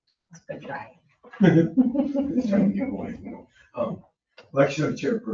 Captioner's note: people chattering indistinctly